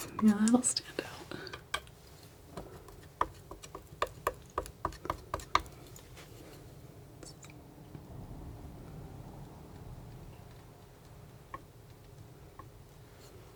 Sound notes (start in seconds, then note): 2.5 tapping on paint